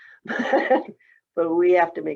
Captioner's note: laughing